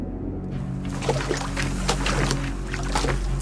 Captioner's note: waves splashing